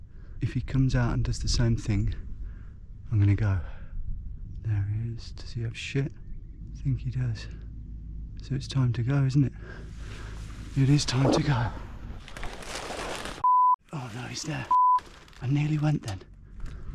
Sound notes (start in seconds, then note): 12.2 hedge rustling; 14.7 beep